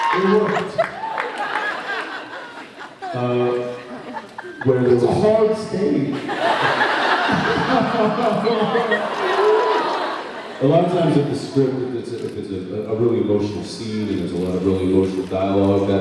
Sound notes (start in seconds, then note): 0.0 cheers, applauds; 1.3 laughs; 6.2 laughs; 7.4 fake crying